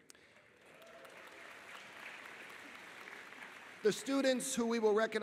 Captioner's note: audience applauding